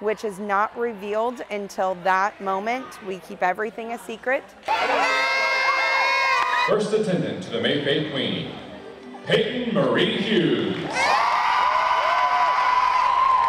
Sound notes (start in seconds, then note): 4.1 horn blowing; 13.2 applause